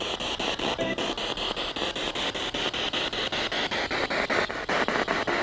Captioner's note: noise of the spiritbox in the background